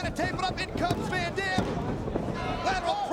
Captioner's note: mat slapping